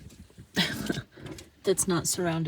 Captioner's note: laughs